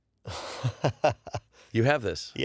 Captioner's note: laughs